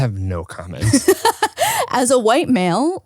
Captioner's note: laughs